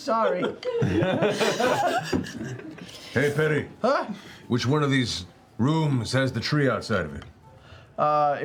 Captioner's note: laughs